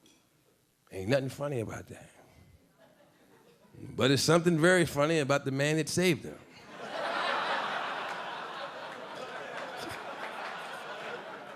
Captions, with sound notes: Ain't nothing funny about that. But there's something very funny about the man that saved them. (audience laughing)